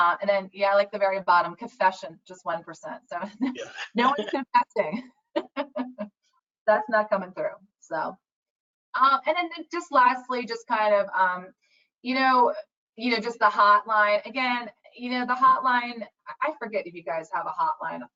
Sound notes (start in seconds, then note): 3.4 laughs